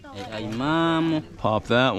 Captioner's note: speaking in foreign language